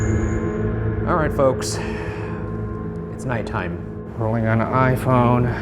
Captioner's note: sudden ominous music; sighing